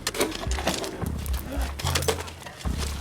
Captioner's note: chatter, coughing